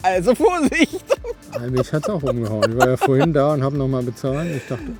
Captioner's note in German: gelächter